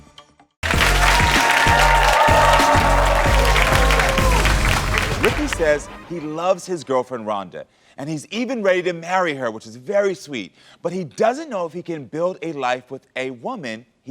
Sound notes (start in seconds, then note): 0.6 audience applauds